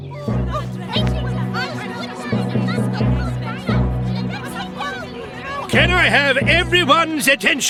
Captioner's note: excited Chatter